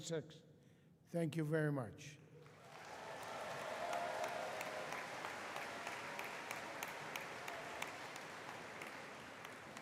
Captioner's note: applause